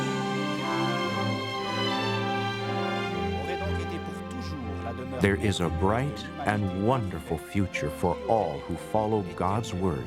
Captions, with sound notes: ( speaking French ) THERE IS A BRIGHT AND WONDERFUL FUTURE FOR ALL WHO FOLLOW GOD'S WORD, THE BIBLE.